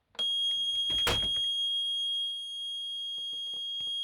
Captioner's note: alarm beeping